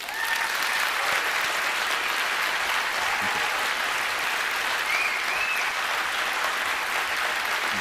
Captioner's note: applause